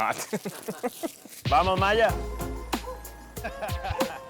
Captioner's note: dog barking